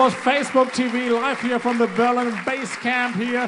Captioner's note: applause; in German